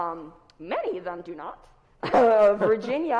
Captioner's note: chuckles